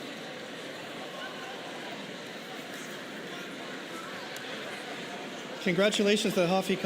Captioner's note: cheers and applause